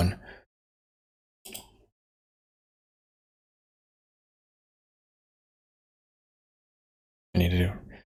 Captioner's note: blank Audio